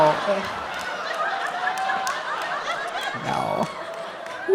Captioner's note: audience applauding